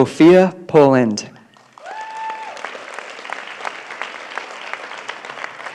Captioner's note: applause